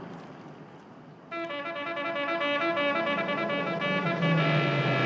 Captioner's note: car horn honks